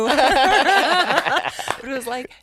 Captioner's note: both laugh